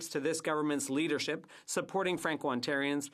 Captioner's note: speaking French